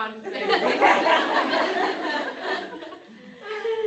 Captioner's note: laughter